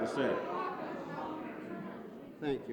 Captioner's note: crowd noise